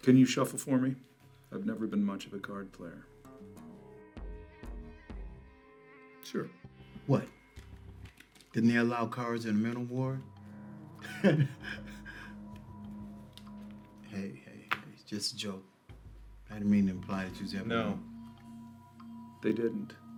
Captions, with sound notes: - Can you shuffle for me? I've never been much of a card player. - Sure. - What? Didn't they allow cards in a mental war? (chuckles) Hey, hey, it's just a joke. I didn't mean to imply that you was there-- - No, they didn't.